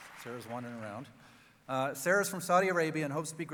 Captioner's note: cheering